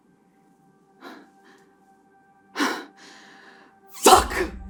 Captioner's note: breathing getting shallower